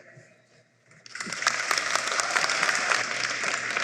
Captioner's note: applause